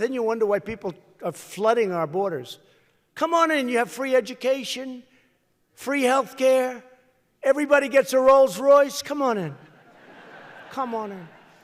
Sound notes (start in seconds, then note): 9.7 laughter